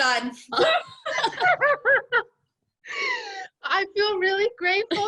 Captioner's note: all laughing